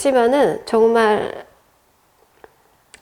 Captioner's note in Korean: 침묵